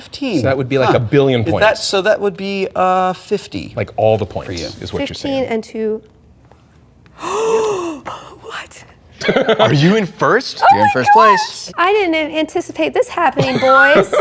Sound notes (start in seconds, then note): 7.2 gasp